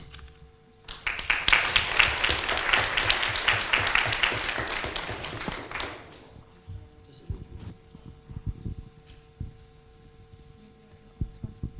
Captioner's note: applause